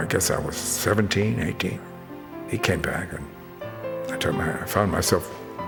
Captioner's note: none